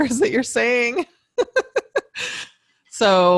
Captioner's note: laughs